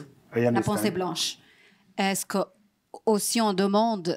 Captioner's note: non-english speech